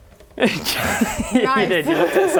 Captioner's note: defeated laugh